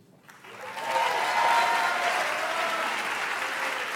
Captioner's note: audience applauds